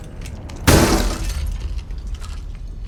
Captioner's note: sound of smashing